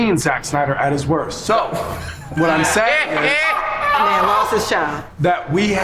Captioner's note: laugh